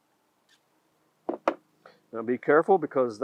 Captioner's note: scissors banging